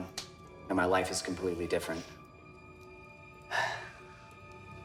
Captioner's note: sighs